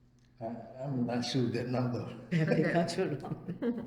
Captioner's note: laughing